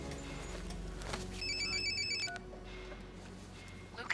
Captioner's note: alarm